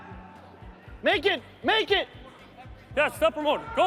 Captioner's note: team chatters